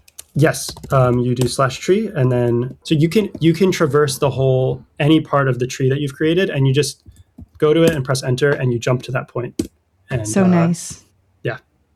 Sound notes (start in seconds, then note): 10.1 uh